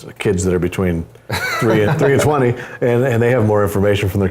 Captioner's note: laugh